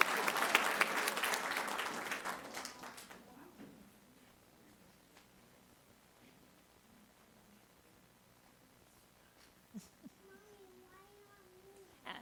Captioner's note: applause